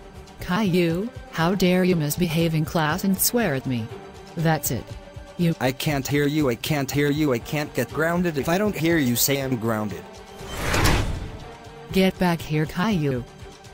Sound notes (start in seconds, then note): 10.4 door closing; 10.4 swoosh